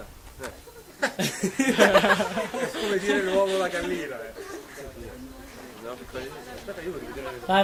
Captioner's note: laughs